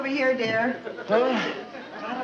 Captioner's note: audience laughing